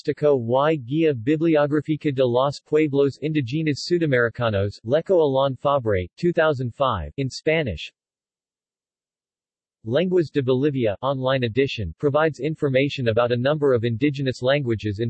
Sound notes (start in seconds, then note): 8.5 in Spanish